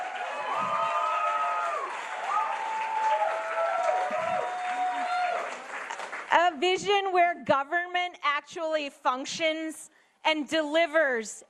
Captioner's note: applause